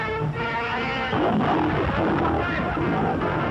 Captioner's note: roaring